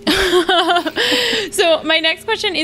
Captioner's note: they laugh